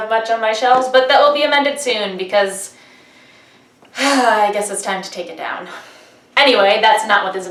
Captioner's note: sigh